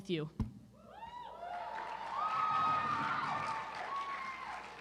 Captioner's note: cheering